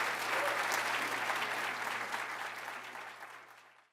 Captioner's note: applause